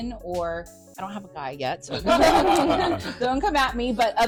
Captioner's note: laughter